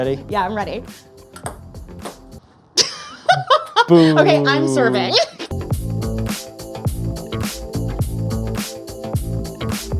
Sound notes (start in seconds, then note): 2.8 chuckles; 3.8 upbeat music